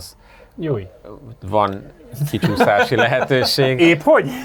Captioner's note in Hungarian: nevetés